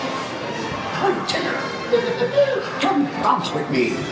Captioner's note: laughs